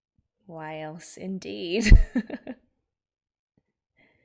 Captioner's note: laughs